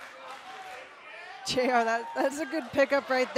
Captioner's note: fans chanting